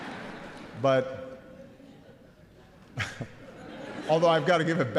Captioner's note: laughter